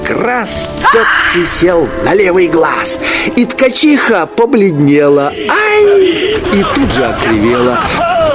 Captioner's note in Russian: крик